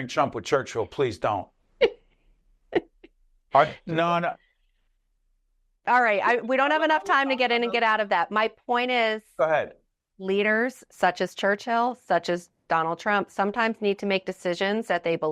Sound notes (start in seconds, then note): 2.7 laughing